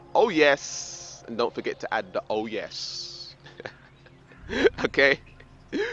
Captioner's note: laughs